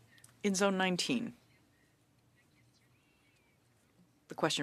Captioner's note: speaking French